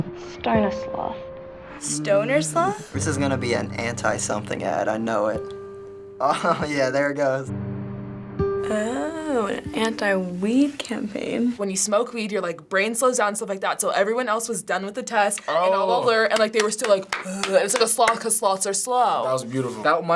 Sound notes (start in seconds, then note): 6.2 laughs